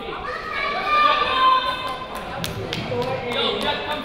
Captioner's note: crowd noise